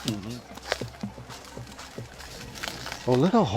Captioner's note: crackling sound